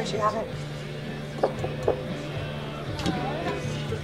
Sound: tap on glass

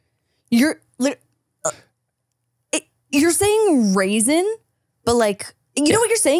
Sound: stammering

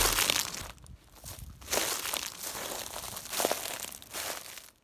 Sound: shrubs scrunching

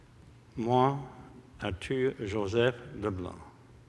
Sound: speaking french

